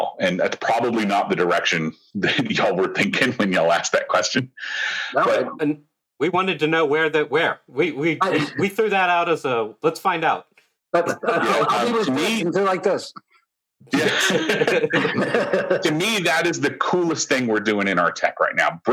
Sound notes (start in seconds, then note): 13.9 laughter